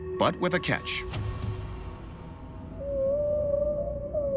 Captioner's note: whale song